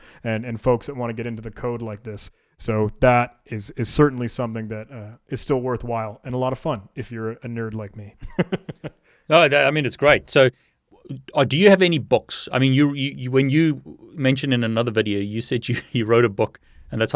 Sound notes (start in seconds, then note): 8.2 laughs